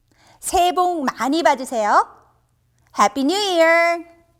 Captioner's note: speaking in a foreign language